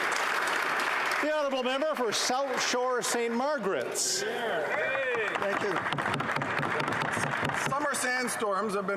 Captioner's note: applause